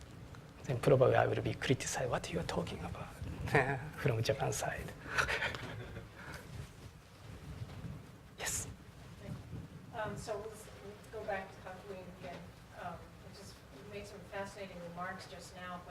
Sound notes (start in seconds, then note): 5.0 laugh